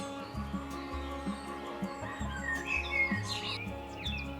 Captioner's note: chickens cluck